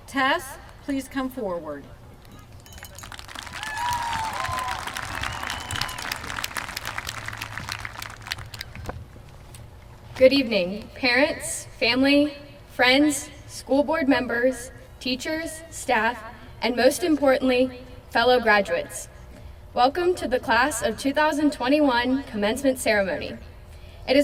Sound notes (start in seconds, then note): 2.8 applause from crowd